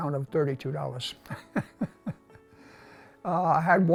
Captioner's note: laughs